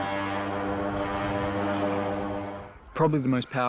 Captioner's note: horn blowing